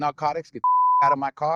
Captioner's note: beep